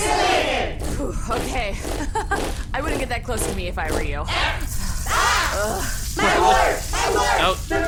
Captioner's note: sound of many marching feet; laughs nervously